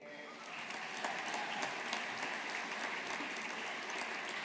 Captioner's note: audience applauding